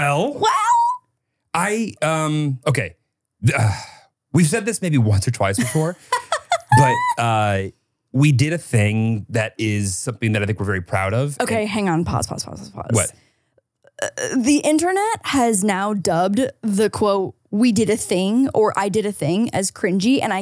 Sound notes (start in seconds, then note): 3.5 sighs; 5.5 laughs